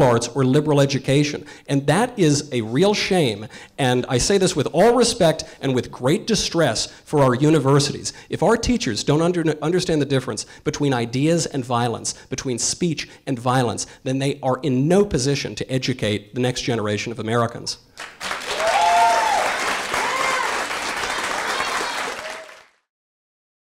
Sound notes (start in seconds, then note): 18.0 audience cheering and applause